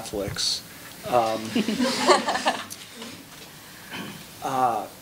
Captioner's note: laughing